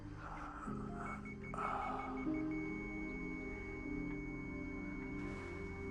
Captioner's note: monitor beeps rapidly, then flatlines